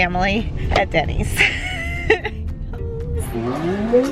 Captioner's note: laughs